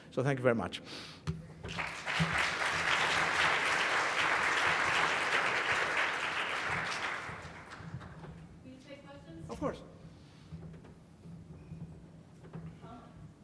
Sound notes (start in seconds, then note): 1.6 applause